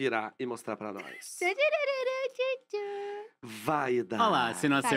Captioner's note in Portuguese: cantarola